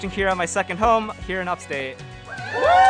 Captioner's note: cheering